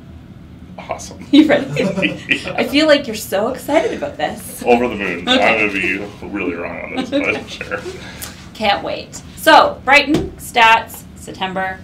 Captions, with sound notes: Awesome. (laughs) You ready? (laughs) Yeah. I feel like you're so excited about this. Over the moon. I'm gonna be really wrong on this, but sure. Can't wait! So, Brighton, stats, September,